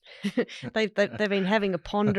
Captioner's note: chuckles